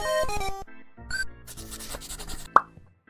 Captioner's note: pencil scratching